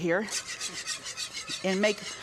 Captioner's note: whisk scraping